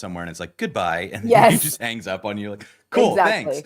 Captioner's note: laughter